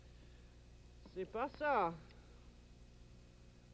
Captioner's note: speaks French